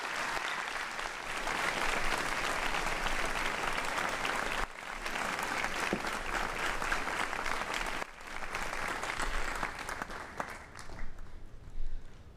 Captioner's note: cheering and applause